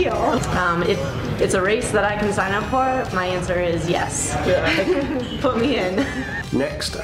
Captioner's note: laughter